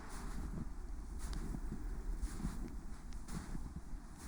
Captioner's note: wind blowing